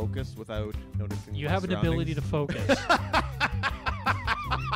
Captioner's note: laughs